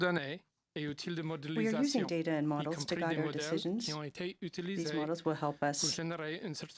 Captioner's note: speaking french